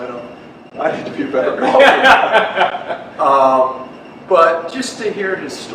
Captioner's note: laughs